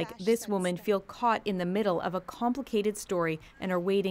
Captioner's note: speaking French